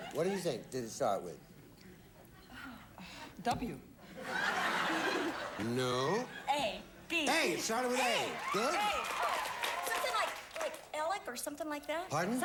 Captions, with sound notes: That's good. What do you think did it start with? W. [audience laughing] No. A, B... A. It started with A. A. Good. A. Something like Alec or something like that.